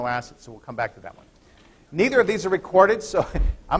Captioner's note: laughter